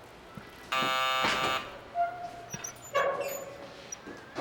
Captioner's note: bell buzzes